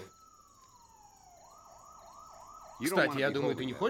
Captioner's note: sirens wailing